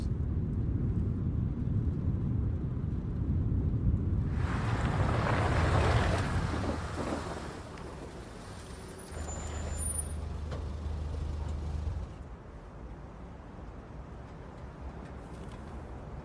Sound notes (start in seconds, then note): 4.8 engine rumbling